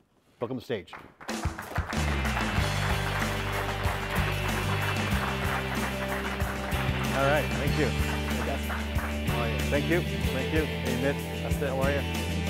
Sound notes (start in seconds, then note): 0.9 audience applauds; 2.8 upbeat music